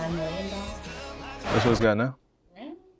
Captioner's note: record scratch